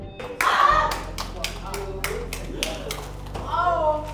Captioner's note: family claps